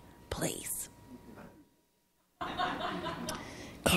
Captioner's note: audience laughing